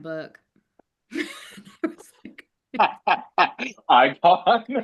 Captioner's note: everyone laughing